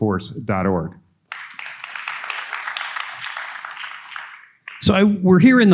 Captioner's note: audience applauding